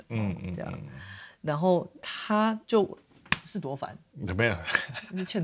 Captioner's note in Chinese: 啪！